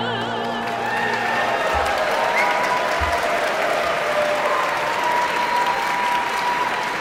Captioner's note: audience cheering and applauding